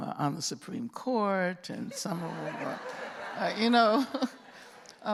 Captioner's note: laughter